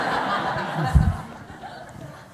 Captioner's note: laughter